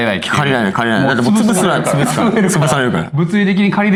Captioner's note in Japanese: 笑い